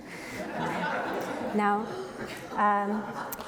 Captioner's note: audience laughs